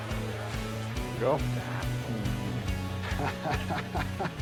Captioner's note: laughing